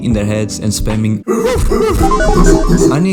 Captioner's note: barking